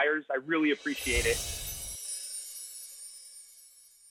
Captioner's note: air whooshes